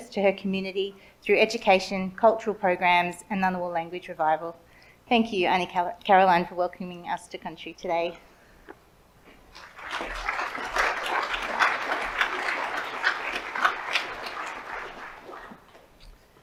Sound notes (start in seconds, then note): 9.5 audience applauds